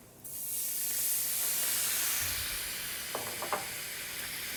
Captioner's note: pan sizzles